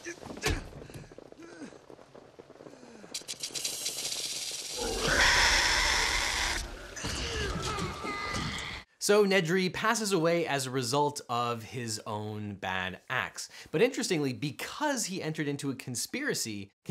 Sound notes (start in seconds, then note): 0.2 grunting; 3.6 rattling; 4.7 dinosaur screeches; 7.1 yelling